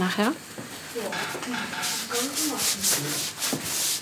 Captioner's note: conversation in the background